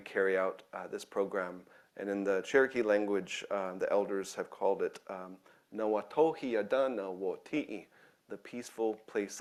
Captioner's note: speaking in own language